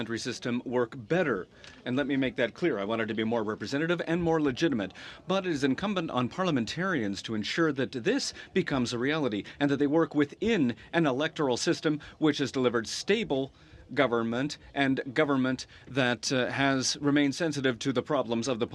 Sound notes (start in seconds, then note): 3.6 speaking French